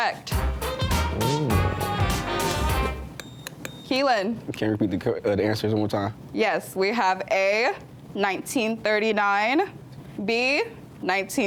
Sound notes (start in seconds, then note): 0.3 lively music; 1.6 buzzer beeps